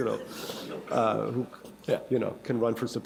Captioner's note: laughter